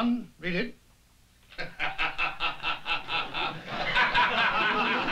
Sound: laughter

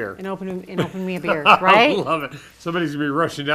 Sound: laughs

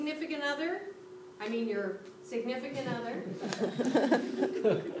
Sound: laughter

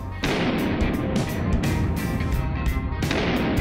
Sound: gunshots

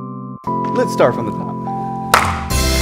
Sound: claps

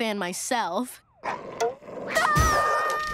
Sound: growling; screaming

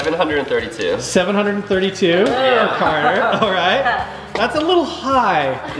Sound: group groans

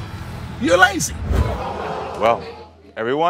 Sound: audience gasps

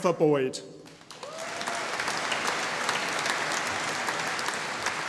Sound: audience applauding

